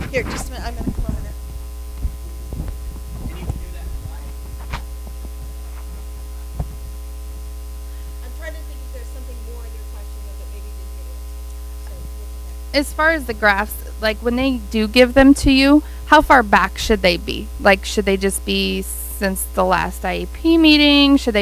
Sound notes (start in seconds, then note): 5.6 speaking faintly